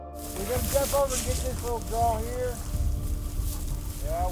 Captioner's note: murmuring